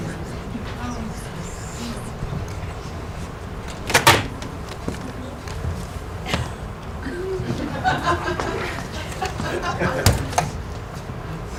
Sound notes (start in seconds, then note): 7.0 laughter